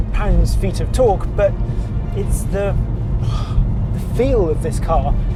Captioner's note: exhales